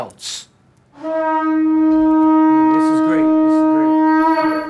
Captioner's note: horn blows